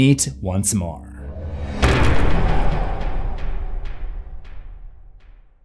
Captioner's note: impact